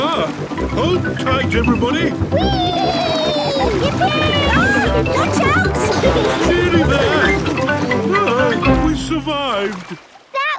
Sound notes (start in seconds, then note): 2.4 George giggles